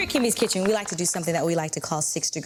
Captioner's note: audience applauding